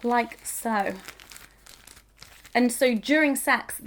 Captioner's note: bag rustling